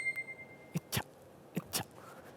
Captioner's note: oof, oof